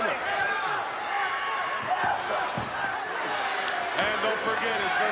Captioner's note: crowd murmuring